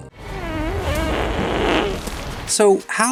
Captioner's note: farting